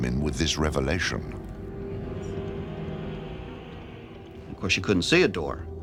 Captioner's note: chattering